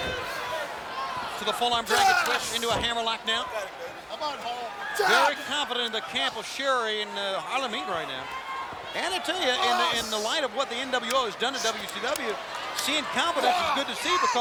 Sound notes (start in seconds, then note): 0.2 Booker grunting; 5.3 Booker yelling